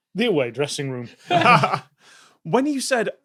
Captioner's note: laughs